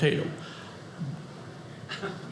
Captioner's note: audience laughing